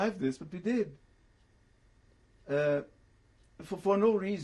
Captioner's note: pauses for 3 seconds